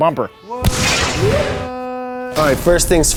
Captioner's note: whooshing